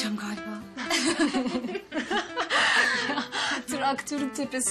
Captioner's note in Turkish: Kahkaha atarlar